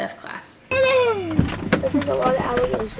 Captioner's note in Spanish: vocaliza su emoción